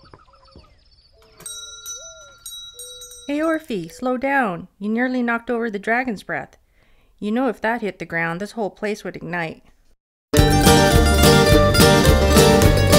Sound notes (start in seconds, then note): 1.2 bell dings